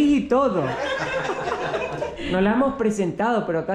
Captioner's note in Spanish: Risas